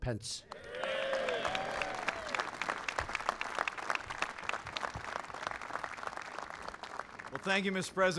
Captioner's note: applause